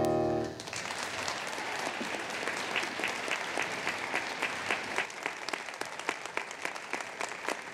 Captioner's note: applause